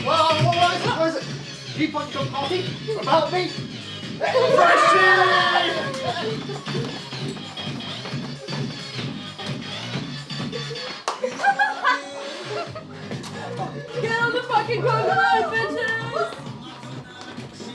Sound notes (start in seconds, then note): 4.2 ecstatic cheering